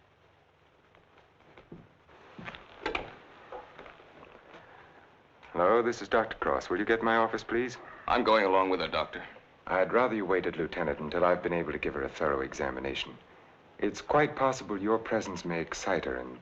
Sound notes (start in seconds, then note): 1.2 footsteps thumping; 2.5 receiver rattling